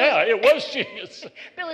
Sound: laughter

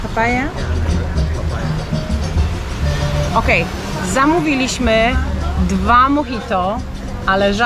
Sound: drinks

